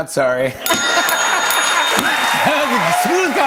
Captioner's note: ding! Ding! Ding!